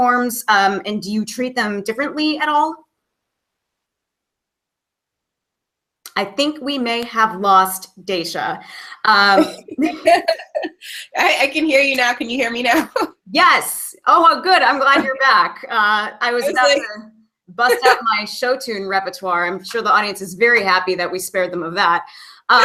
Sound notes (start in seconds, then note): 9.3 laughing